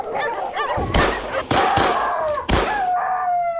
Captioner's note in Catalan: Trets de pistola